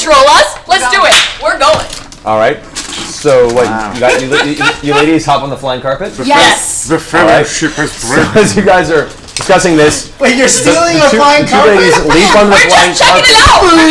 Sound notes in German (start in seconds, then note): 7.4 lacht; 11.3 Gelächter